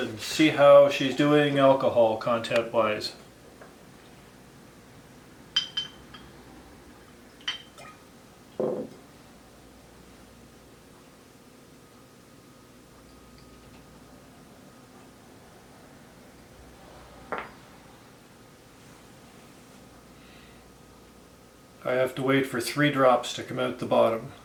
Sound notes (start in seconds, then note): 5.6 clink